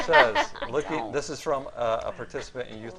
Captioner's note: laughing